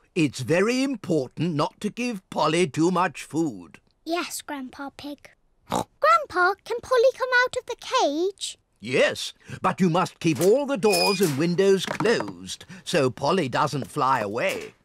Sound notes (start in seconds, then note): 5.7 oinks